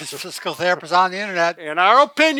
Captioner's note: laughing